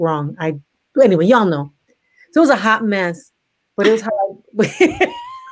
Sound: laughs

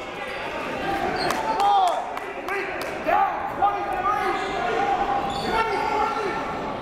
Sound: crowd talking; coaches yelling

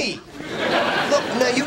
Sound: audience laughing

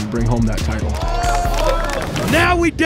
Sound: crowd cheering and applauding

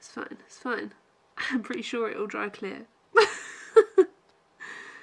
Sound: laughs

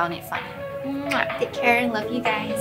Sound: muack

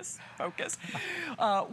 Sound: laughter

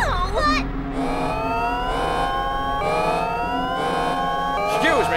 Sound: alarm blares

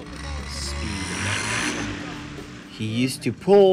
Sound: roars

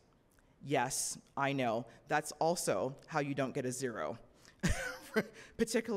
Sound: laughs

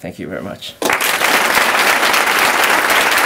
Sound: applause

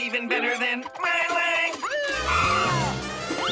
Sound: siren blaring

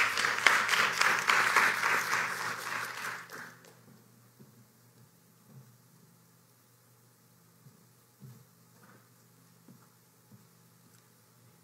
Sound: applause

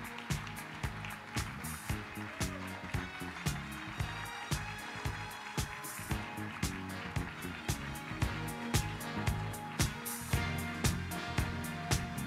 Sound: applause

